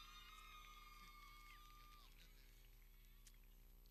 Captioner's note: people cheering